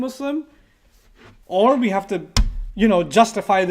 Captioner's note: hit a table